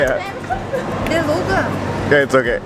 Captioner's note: foreign language